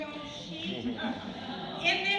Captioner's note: laughter